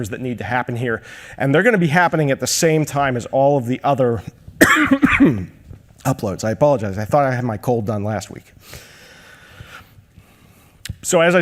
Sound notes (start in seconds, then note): 4.6 coughs